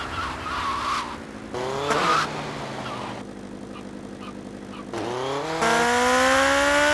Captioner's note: engine revving